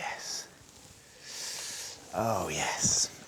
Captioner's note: inhales deeply